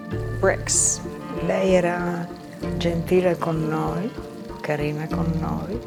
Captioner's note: speaking in foreign language